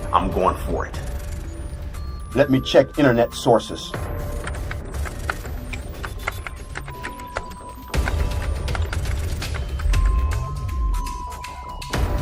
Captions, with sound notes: I'm going for it. Let me check internet sources. (keyboard clicking)